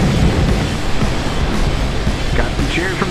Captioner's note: engine roar